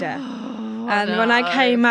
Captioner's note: growls exasperated